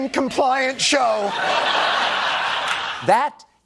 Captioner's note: laughter